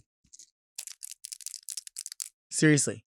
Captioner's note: nails clatter